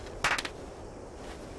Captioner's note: clapping